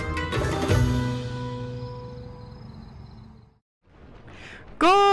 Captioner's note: crickets chirping